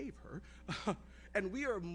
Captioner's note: chuckles